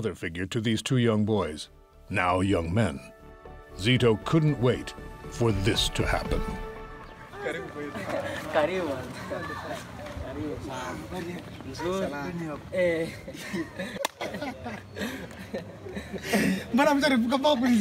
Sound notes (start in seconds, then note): 7.2 laughing; 7.3 speaking in foreign language